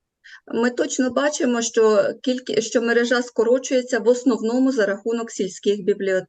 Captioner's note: foreign Language